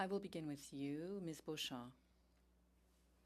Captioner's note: speaking French